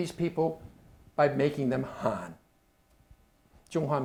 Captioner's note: speaking Chinese